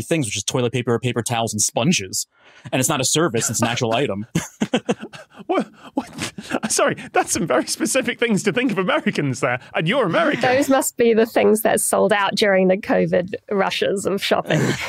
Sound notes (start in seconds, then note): 3.3 chuckles; 4.8 wheezes